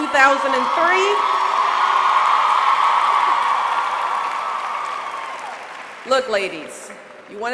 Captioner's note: applause